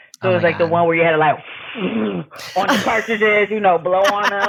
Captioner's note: pffft